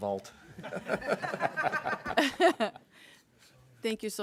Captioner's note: people laughing